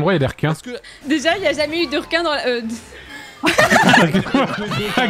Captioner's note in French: elle éclate de rire